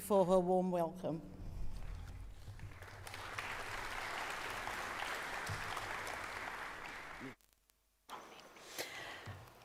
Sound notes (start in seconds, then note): 2.3 audience applauds